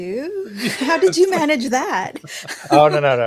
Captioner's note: laughing